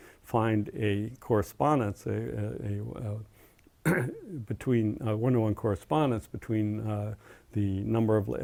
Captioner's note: cough